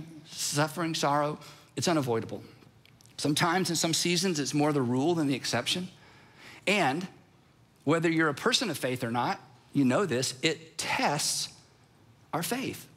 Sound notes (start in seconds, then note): none